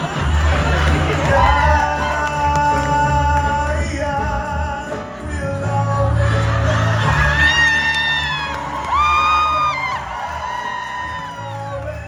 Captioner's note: applause